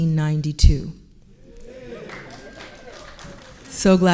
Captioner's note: audience clapping